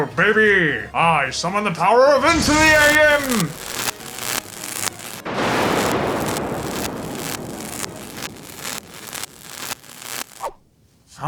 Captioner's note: lightning